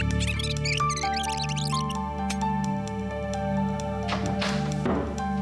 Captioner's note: tape rewinding; click